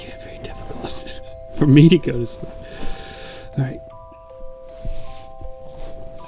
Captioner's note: laughing; inhales